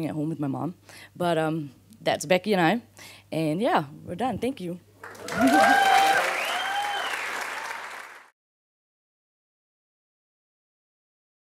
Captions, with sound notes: at home with my Mom, but that's Becky and I, and yeah, we're done, thank you. (audience applauding)